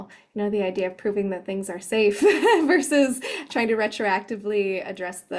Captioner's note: chuckles